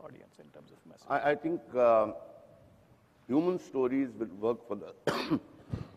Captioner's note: coughing